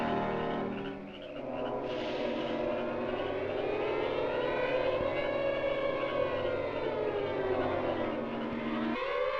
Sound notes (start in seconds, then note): 1.8 snake hisses